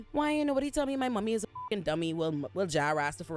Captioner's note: beep